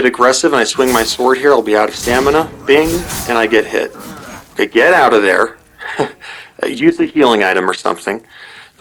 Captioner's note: bing!